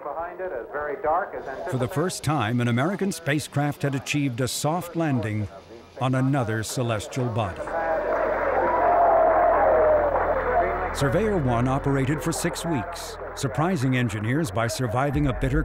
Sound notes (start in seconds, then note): 1.8 voiceover